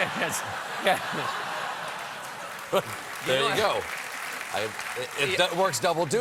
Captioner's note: applause